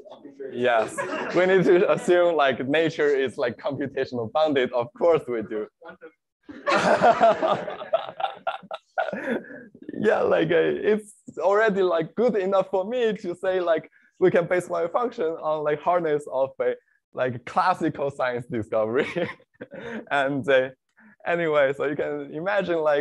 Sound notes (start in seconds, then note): 0.8 laughter; 6.4 laughter; 18.9 laughs